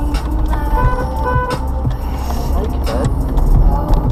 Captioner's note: horn beep beep